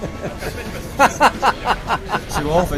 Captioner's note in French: Rires